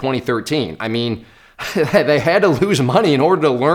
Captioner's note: laughs